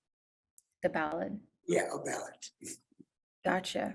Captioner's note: chuckles